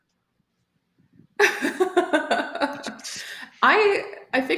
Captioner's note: laughter